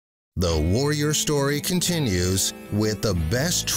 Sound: voiceover

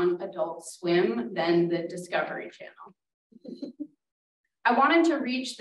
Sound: giggles

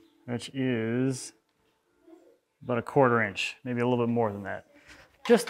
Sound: none

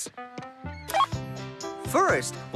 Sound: beep!

